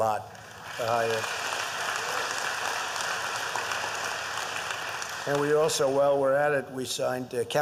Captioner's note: applause